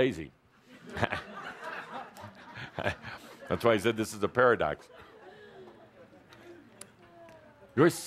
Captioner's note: laughter